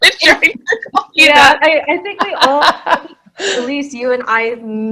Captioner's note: groans